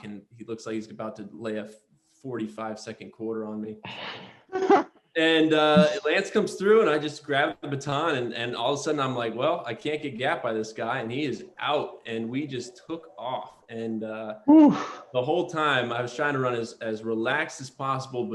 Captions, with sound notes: And he looks like he's about to lay a 45-second quarter on me. [LAUGHTER] And Lance comes through, and I just grab the baton. And all of a sudden, I'm like, well, I can't get got by this guy. And he is out, and we just took off. And-- Oof. --the whole time, I was trying to run as relaxed as possible.